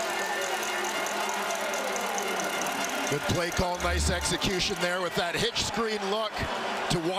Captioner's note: crowd Noise